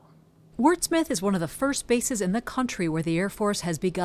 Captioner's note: voice-over